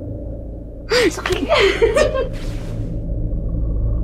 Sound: laughing

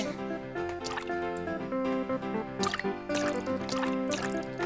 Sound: juice splashes

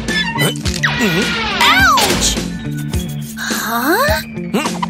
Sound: grunting

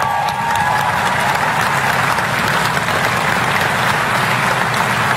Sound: applause

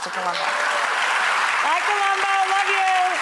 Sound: audience applause

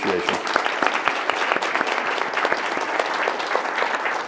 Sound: audience applauding

